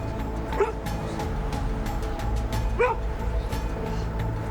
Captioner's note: dog barking